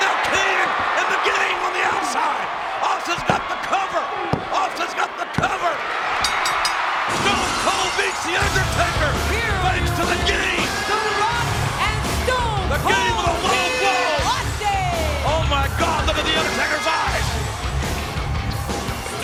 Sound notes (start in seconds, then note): 6.2 bell dinging